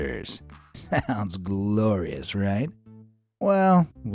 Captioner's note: chuckles